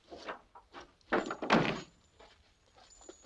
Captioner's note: door thuds